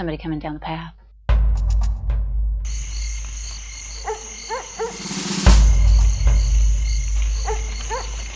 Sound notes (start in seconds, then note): 3.8 dog barks